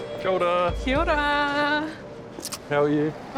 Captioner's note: kisses